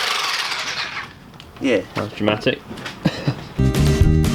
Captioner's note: laughs